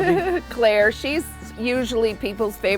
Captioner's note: chuckles